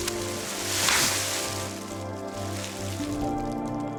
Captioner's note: bubble wrap crinkling; gentle music